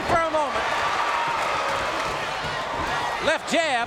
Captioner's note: audience cheering